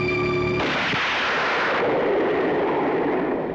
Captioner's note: gun fires